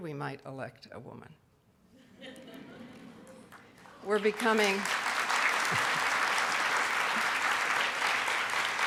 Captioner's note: audience laughs; audience clapping